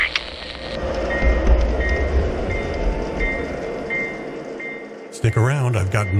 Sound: message on the radio; train bell

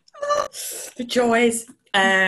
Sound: laughs

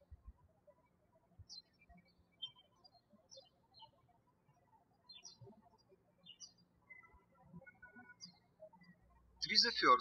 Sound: birds chirping

